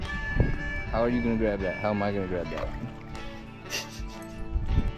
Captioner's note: laughs